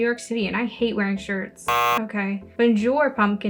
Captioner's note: buzzer sound